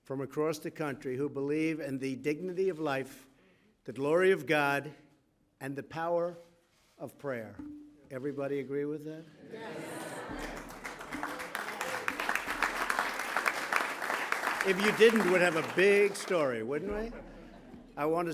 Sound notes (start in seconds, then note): 9.8 applause; 16.9 laughter